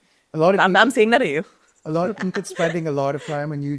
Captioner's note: chuckles